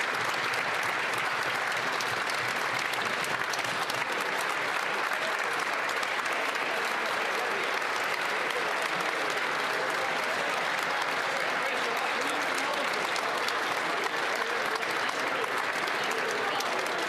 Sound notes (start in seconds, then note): 2.7 applause